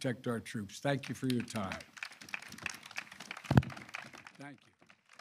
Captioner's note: applause